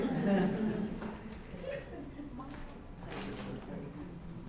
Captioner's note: scattered laughter